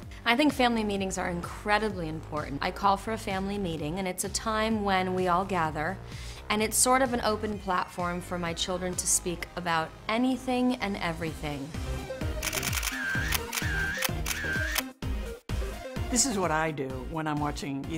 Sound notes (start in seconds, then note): 12.4 camera shutter clicking